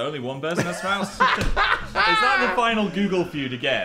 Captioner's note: Dan laughs